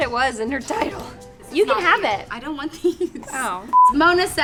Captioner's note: laughs; beep